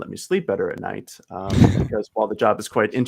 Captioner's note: laughing